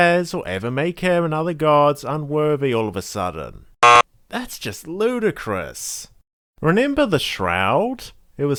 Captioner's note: buzzer sound